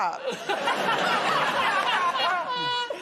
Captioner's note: laughter